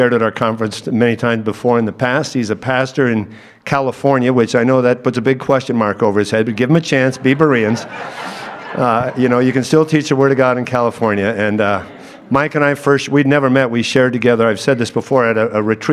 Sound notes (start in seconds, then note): 6.9 audience laughs